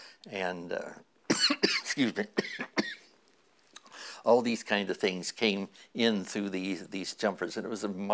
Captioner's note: cough